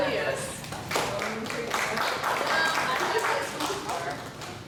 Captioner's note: applause